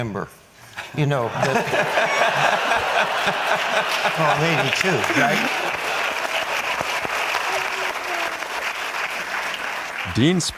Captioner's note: audience laughs